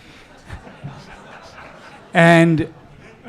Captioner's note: audience laughing